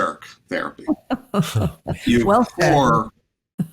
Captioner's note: laughter